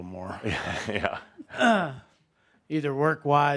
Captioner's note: chuckling